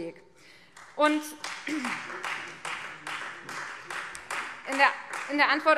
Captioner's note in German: Beifall Freie Demokraten